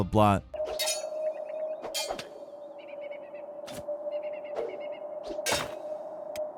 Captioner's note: birds chirping; swords clanking